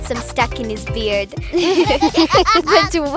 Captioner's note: all giggling